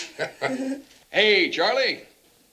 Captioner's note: both chuckling